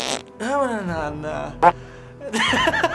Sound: grunts, farts; mutters, farts; laughs

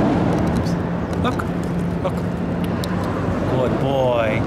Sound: tongue clicks

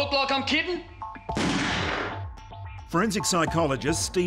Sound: gun fires

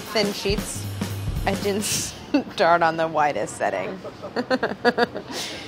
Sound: laughs

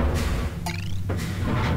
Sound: clank chirp

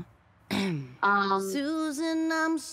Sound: clears throat

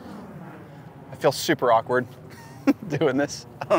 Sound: laughs

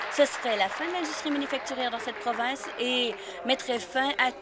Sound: applause

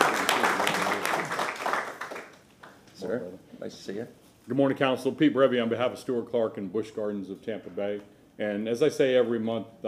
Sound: applause

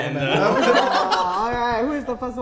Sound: laughter

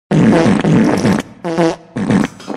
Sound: random Fart Noises

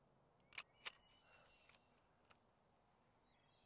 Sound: shutter clicks

